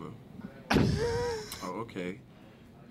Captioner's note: laughing